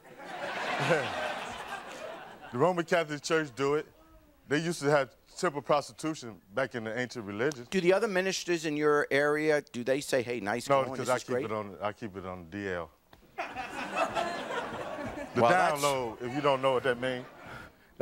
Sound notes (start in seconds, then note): 0.0 audience laughing; 13.4 audience laughing